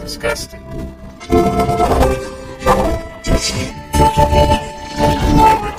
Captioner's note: grumbles